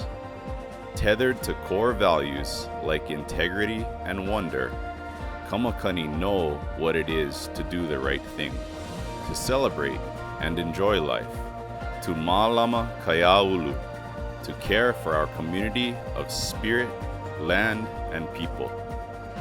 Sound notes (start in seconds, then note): none